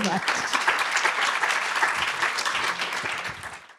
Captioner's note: applause